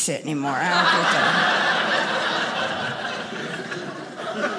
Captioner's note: audience laughing